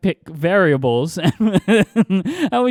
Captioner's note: laughs